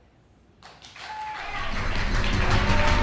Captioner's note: applause; upbeat music